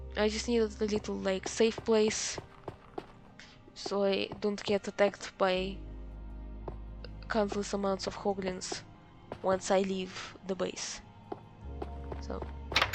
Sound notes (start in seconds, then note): none